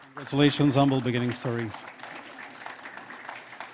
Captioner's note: applause